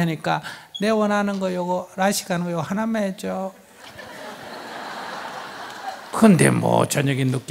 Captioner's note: audience laughs